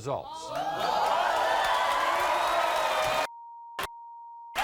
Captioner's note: audience cheers